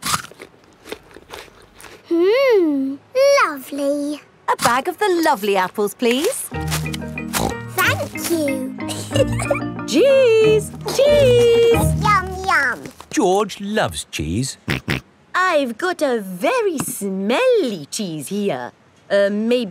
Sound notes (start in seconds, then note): 0.0 crunches; 7.3 snorts; 8.8 giggles; 15.1 snorts